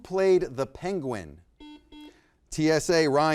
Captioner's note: buzzer beeps